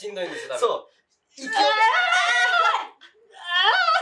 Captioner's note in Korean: 으아아아